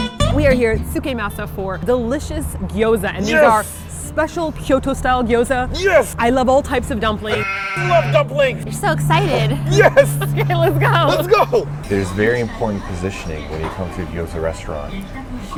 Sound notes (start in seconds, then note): 7.2 baa; 9.8 laughs